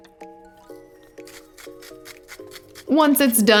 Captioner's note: salt grinding